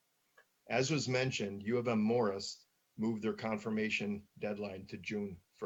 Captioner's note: murmurs